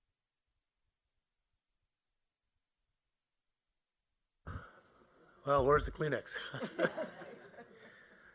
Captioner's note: laughter